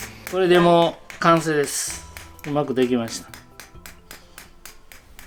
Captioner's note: speaking foreign language